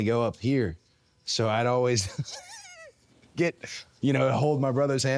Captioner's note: laughs